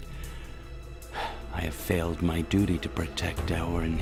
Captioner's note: the president sighs